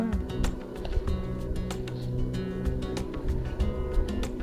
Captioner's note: airplane